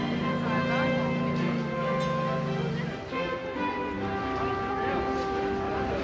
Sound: upbeat instrumental music; crowds chatter in background

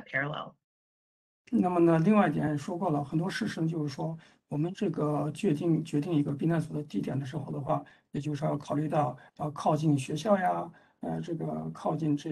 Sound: speaks in Mandarin

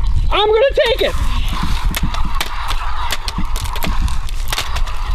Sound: banging plastic

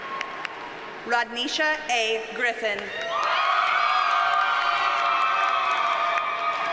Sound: audience cheers and applauds

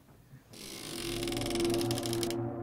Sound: door creaking open

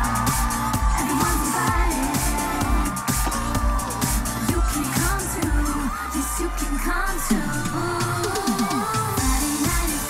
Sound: oooh

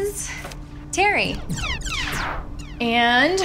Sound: video game zapping

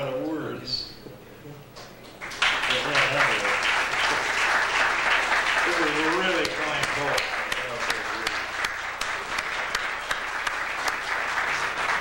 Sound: applause

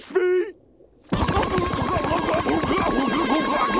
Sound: SpongeBob screaming

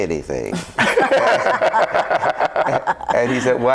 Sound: group laughs

